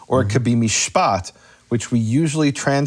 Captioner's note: speaks in foreign language